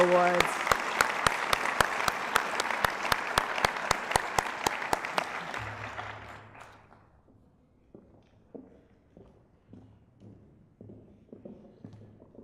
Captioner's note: applause